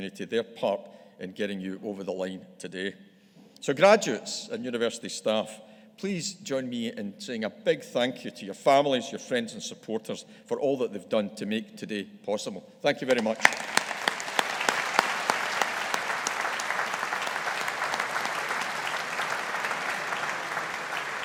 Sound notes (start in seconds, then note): 13.1 audience applauding